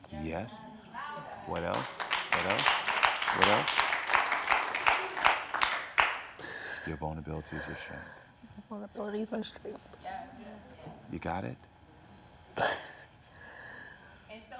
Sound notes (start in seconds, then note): 1.4 audience applauds